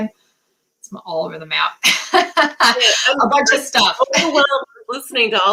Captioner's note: laughter